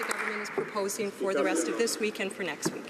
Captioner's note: some Applause